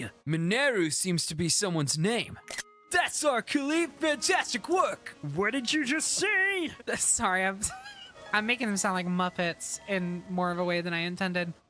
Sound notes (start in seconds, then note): 5.1 As Calip, Silly Voice; 7.6 laugh